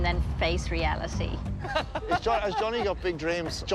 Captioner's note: laughs